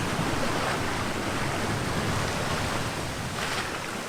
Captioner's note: waves crashing